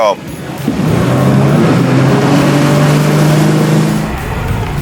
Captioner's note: boat engine revs